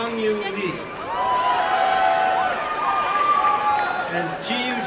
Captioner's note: applause and cheering